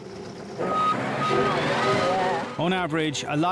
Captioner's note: tires squeaking